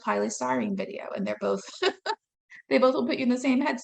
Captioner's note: laughing